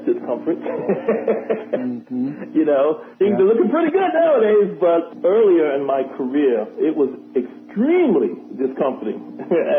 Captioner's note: laughter